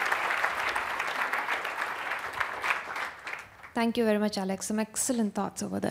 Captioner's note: applause